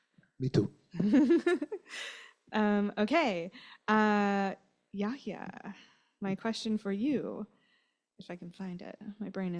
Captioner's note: lauhter